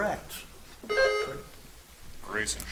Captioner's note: buzzer chimes